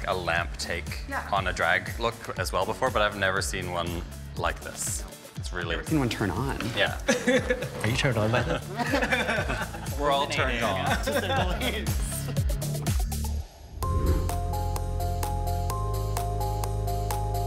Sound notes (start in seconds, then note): 8.3 group chuckling; 8.6 person laughing; 10.8 all chuckling; 13.7 soft music